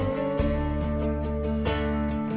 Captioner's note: none